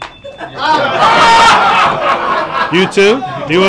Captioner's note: cell phone rings; laughter